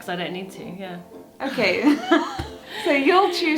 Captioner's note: laughing